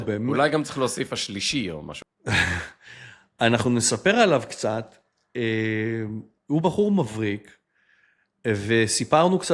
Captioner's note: sighs